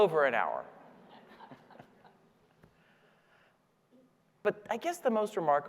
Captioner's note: audience laughing